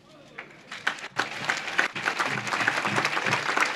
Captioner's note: audience claps